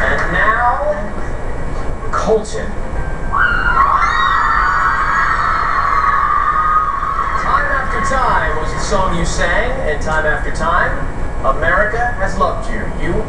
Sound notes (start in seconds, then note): 3.4 cheers and applause on tv